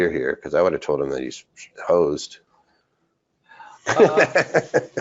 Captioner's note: laughs